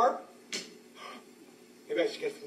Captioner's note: le gasp